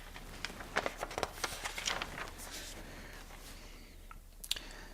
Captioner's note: pages flapping